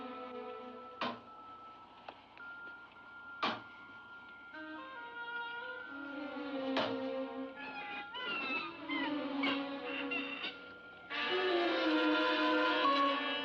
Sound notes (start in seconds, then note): 0.0 eerie music; 1.0 bang; 3.4 bang; 4.6 eerie music; 6.7 bang; 7.5 bird squawks; 11.0 ominous music